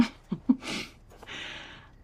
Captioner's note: laughs